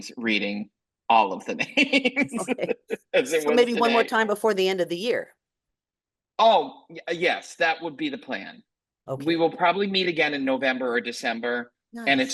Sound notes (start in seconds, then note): 1.4 laughs